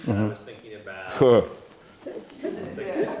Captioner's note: everyone chucking